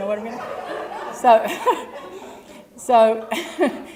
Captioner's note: laugh